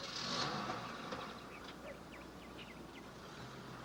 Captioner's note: engine turns